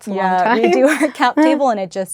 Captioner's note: both laugh